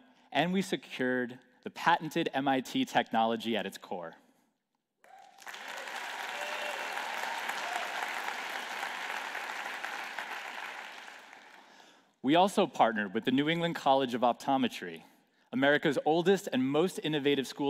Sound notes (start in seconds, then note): 5.0 applause